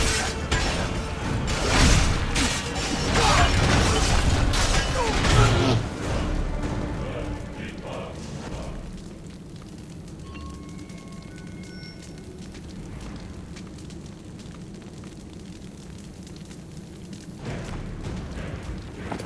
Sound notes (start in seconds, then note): 3.5 cannonballs hit ground